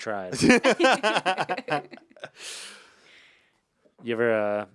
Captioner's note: laugh